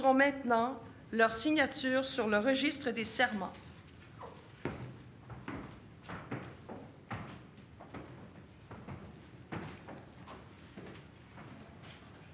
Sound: speaking French

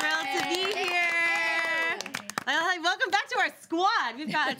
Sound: applause and cheering

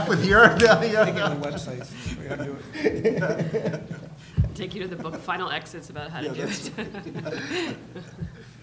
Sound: laughing

